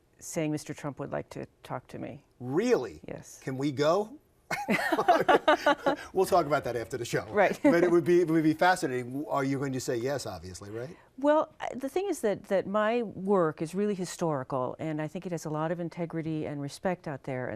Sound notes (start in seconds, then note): 4.5 both laugh; 7.5 laughs